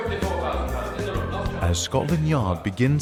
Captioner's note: voice muffled